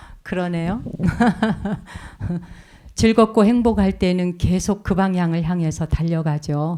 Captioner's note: speaking in Korean; laughs